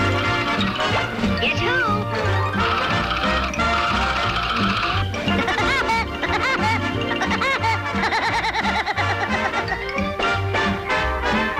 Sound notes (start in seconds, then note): 0.2 cheerful upbeat music; 4.2 Woody pecking; 7.0 Woody laughing cheerfully